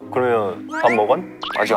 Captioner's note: suddenly in dialect